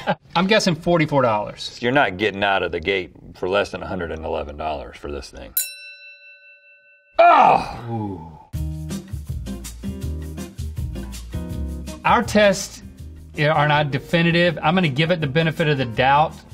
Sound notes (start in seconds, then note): 0.0 Rhett and Link laugh; 5.5 bell dings; 9.0 gentle acoustic guitar music